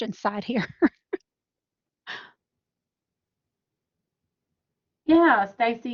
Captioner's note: laughter